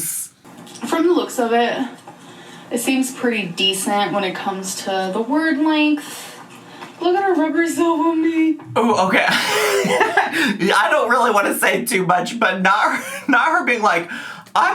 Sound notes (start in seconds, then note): 8.7 laughs